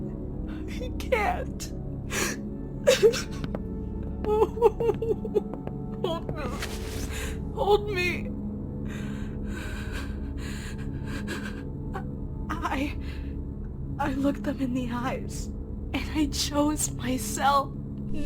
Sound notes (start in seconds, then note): 4.0 celeste sobs; 8.8 heavy breathing